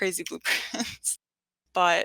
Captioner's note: chuckles